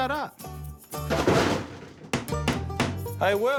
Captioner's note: thud